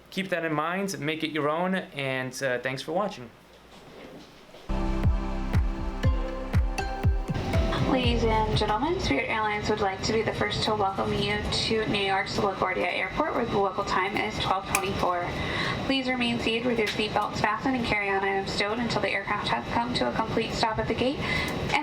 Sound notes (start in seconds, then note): 4.7 electronic music playing; 8.1 loudspeaker Voiceover